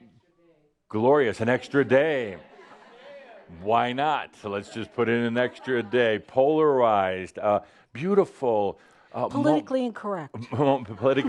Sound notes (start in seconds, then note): 4.4 some chuckles and someone shouts “Yeah!”